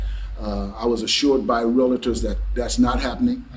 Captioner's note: none